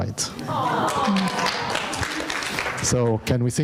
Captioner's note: audience applauding